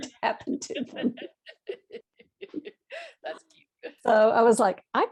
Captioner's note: laughs